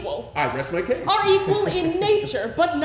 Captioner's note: laughs